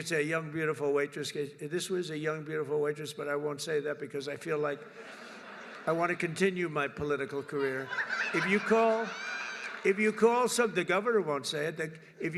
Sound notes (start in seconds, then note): 4.8 laughter